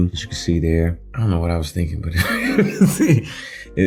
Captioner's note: laughing